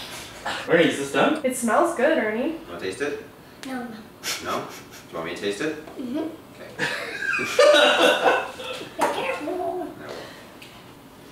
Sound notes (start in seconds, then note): 6.7 laughter